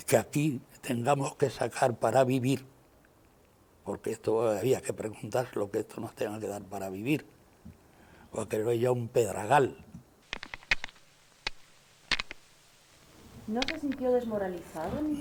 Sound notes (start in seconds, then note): 10.3 sound of stones being stacked